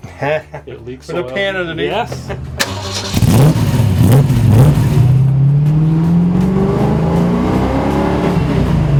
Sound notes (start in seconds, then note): 0.0 laughs; 2.5 rumbling powerful motor sound